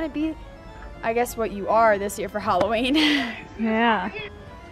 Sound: chuckles

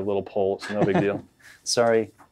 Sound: interviewer laughs

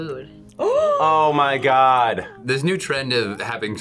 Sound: gasps

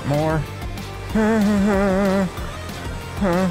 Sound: humming

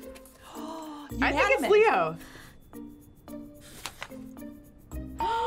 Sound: gasping

